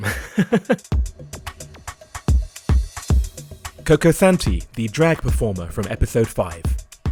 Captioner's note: voiceover